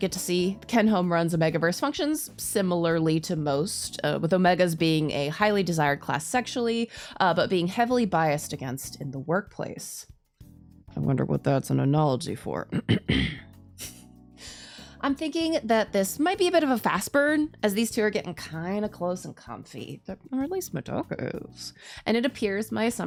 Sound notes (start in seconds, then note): 12.7 cough cough